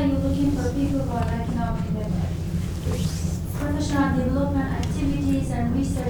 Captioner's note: faint speaking off mic